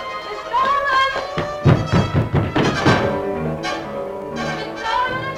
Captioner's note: pounding